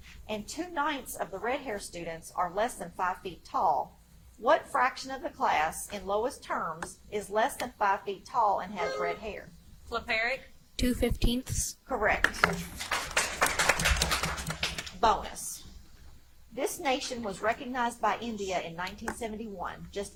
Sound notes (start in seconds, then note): 8.8 buzzer chimes; 12.8 audience applauds